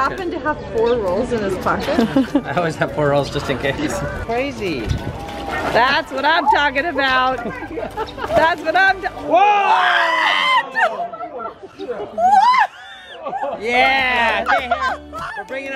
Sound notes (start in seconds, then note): 1.9 laughs; 13.0 laughs